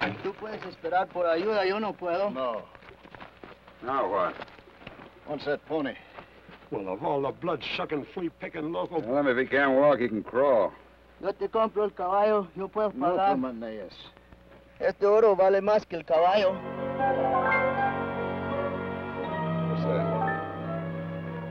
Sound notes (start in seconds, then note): 13.1 Ben speaks foreign language; 16.5 ominous orchestral music